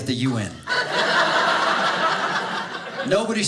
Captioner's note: audience laughing